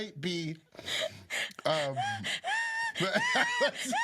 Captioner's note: both laughing